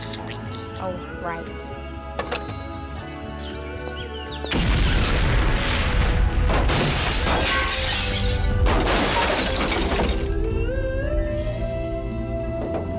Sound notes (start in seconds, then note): 4.5 exploding sound; 6.5 glass shattering